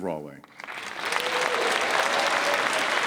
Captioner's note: applause